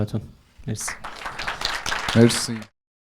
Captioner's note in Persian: تشویق